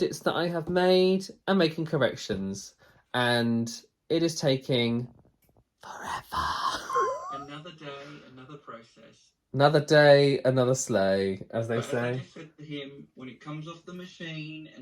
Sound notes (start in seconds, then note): 6.5 laughs